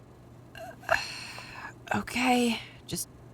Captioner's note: sighing